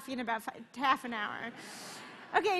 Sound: laughter

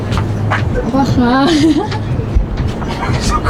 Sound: laughing

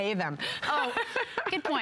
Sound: laughter

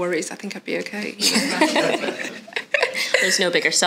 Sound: audience laughs

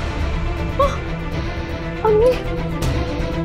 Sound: sighs

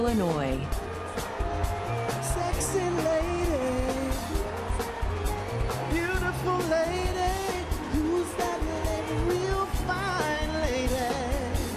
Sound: applause

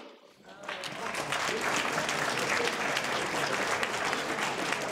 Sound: audience applauds

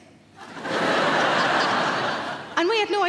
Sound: crowd laugh

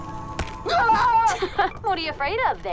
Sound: screaming

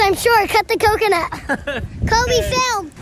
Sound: laughing

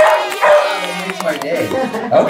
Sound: dogs barking; crowd cheering

